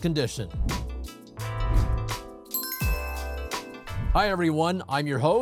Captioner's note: upbeat music; bell dinging